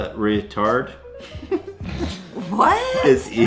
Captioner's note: giggling